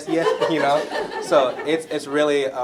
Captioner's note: laughter